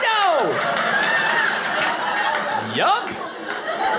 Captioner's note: audience laughing